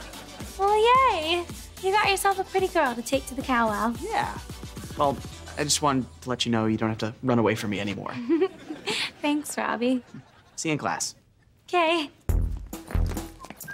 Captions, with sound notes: Well, yay. You got yourself a pretty girl to take to the Cow Wow. Yeah. Well, I just wanted to let you know you don't have to run away from me anymore. [chuckles] Thanks, Robbie. - See you in class. - 'Kay.